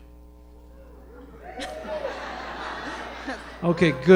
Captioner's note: hesitant cheering and laughter